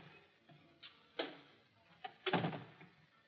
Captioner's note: door clicks; door shuts